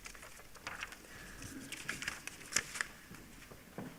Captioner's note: papers rustling